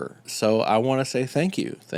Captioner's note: none